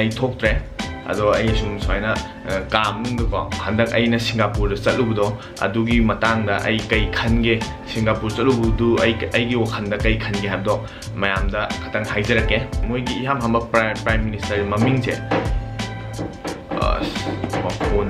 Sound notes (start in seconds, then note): 14.7 knocking sound